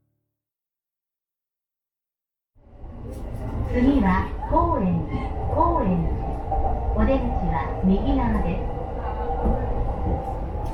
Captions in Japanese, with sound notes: [電車の車内放送] 次は高円寺、高円寺。お出口は右側です。